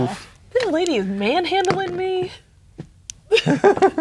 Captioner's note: rolls dice; laughing